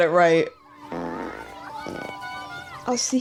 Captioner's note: farts